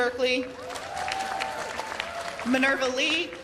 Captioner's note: cheers and applause